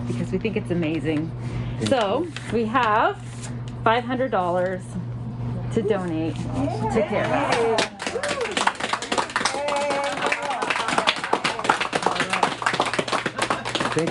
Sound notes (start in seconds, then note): 7.2 people applauding